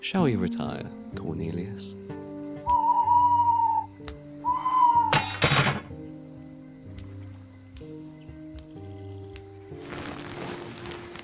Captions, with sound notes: Shall we retire, Qornelius? [Qornelius HOOTS] [BLADES DROP TO GROUND]